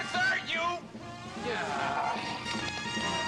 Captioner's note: groans loudly